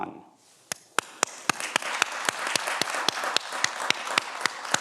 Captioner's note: everyone applauds